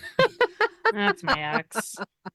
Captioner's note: laughing